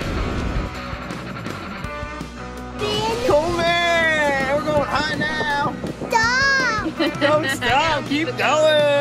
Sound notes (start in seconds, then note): 6.8 woman Laughing